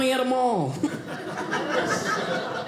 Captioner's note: audience laughing